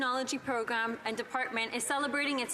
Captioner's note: speaking French